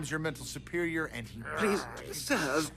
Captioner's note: growls as the Other